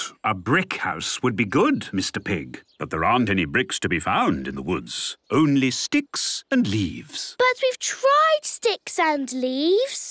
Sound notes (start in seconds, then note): none